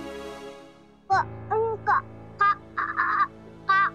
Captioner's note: Swara stuttering